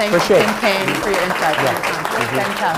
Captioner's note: applause